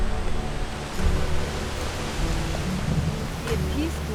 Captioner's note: thunder and wind